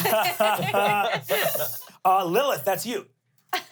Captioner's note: everyone laughs